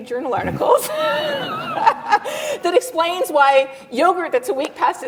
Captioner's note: laughs